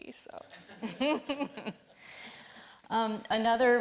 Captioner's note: all laughing